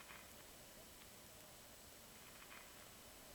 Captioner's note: static